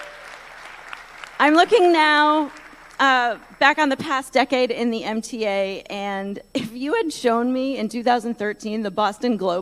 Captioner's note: applause